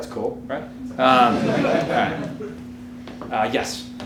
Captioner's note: audience laughing